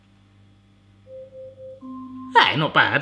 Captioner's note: alarm chiming